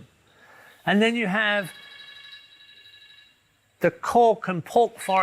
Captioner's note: phone ringing